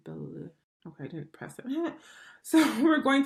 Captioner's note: chuckles